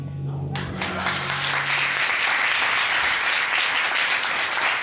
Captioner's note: audience applauds